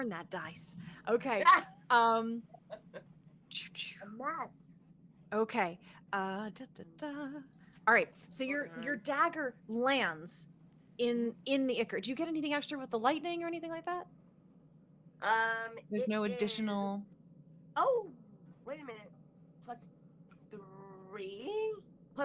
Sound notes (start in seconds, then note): 2.5 laughs